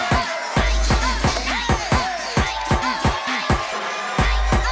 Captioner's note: crowd cheering